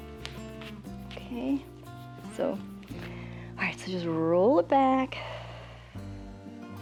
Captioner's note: exhales